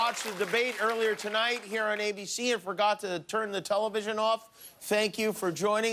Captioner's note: cheers and applause